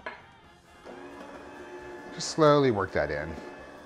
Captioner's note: moves into fast tempo music; slow whirring